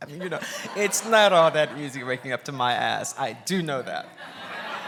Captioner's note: laughs; laughs